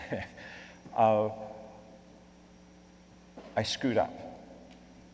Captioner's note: laughs